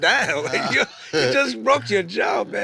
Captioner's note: low chuckling